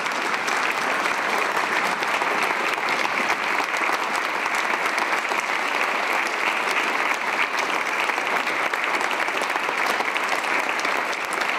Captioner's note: applause